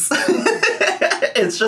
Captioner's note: laughing